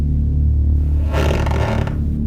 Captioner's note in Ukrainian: скрип підлоги